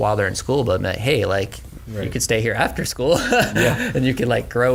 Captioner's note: laughs